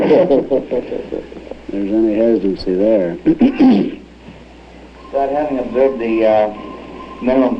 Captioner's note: laughter